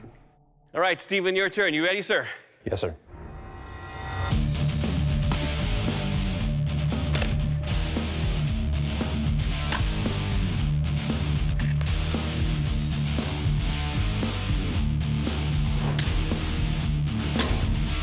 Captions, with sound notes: All right, Steven, your turn. You ready, sir? Yes, sir. [rock music] [blade impacts]